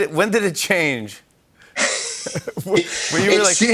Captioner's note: both laugh